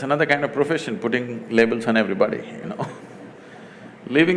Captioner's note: laughs